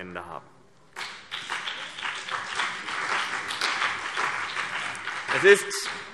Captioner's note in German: Beifall BÜNDNIS 90/DIE GRÜNEN und vereinzelt CDU